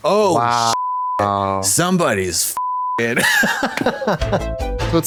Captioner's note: beep